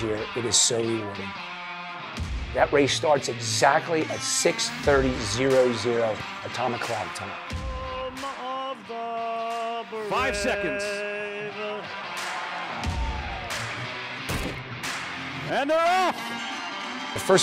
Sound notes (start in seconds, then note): 12.9 crowd cheers; 14.3 race gun fires